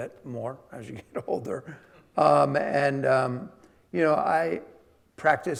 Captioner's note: chuckling